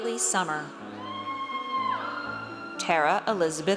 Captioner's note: audience cheers